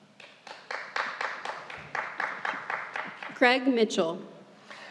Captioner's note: audience member applauds